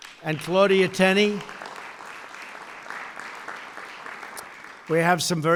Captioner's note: applause